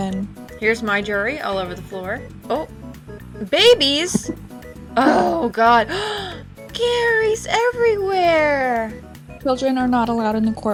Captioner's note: gasp